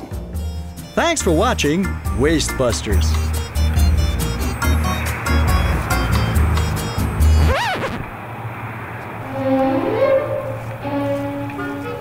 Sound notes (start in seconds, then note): 3.5 upbeat music; 5.3 idling van; 7.3 record scratching